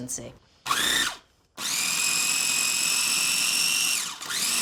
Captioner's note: food processor whirring